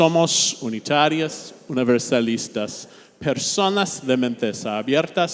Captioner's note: speaking Spanish